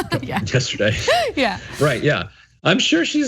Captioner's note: laugh